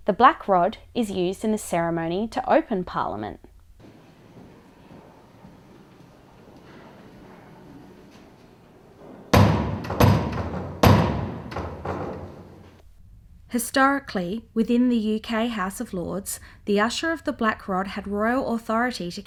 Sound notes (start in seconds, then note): 4.9 knocks three times on the door